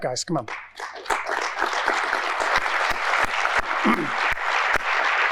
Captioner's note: audience applauding